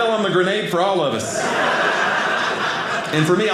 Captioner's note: audience laughing